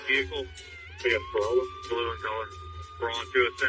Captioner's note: siren blalares